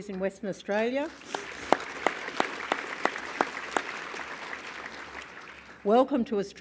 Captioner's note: applause